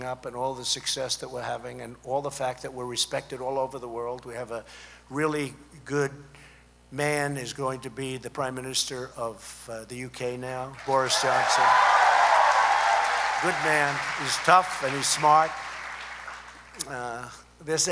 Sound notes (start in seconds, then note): 12.5 applause